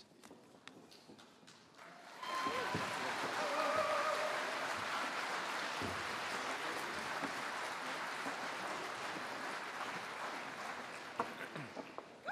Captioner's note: spanish; french